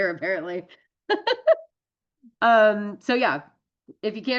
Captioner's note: laughs